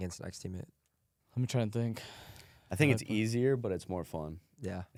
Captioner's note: sighs